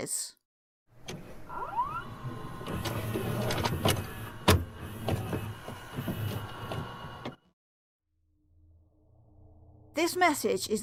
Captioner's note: VHS Noises